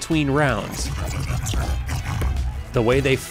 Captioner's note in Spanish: ruidos de King Hippo